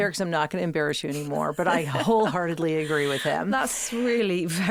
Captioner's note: Kate laughing